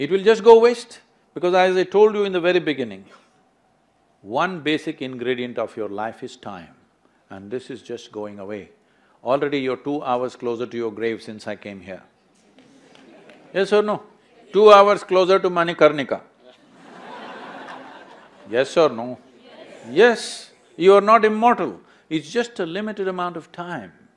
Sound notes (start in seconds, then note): 12.5 few laugh; 16.4 laughter